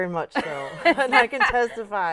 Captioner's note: laughter